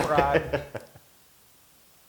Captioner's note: laugh